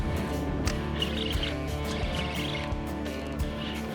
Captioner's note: rod snapping